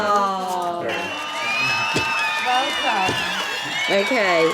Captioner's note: cheering sound effect